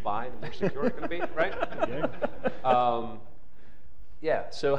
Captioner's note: laughter